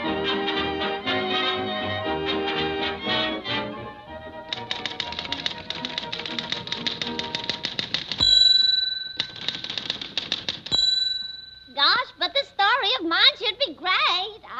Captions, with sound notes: (typewriter keys clacking) (typewriter dinging) (typewriter keys clacking) (typewriter dinging) - Gosh, but this story of mine should be great.